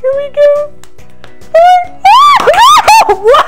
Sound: canister pops; screams

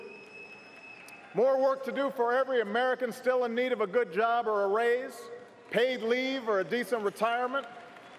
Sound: applause

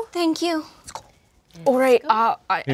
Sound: whispers

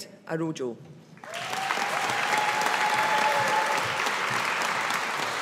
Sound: audience applauding

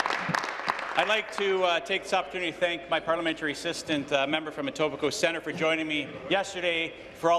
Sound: applause

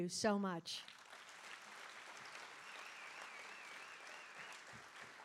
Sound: audience applauding

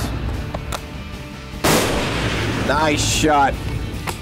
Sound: gunshot

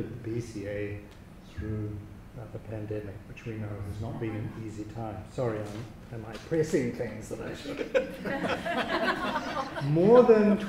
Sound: audience laughter

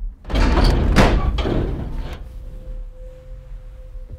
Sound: metal banging

